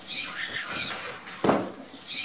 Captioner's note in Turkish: gıcırk